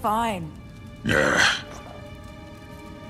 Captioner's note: growl